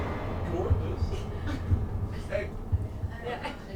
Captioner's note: dramatic music; heart beating